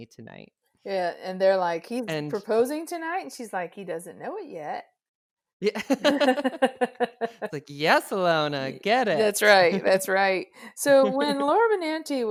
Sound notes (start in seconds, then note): 5.6 both laughs